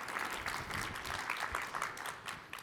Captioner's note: applause